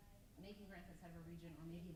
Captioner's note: stammers